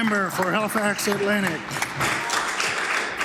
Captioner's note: some Applause